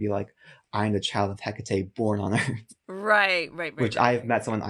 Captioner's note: chuckles